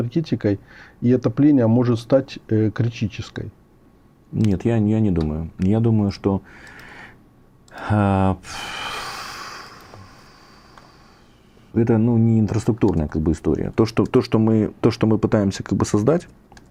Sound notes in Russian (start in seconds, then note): 8.4 вздыхает; 8.4 тяжело вздыхает